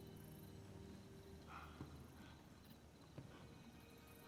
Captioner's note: godfrey wheezing